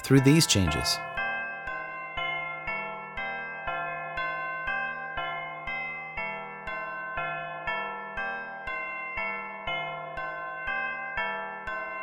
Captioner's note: bells ringing